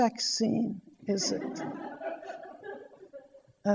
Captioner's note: audience laughter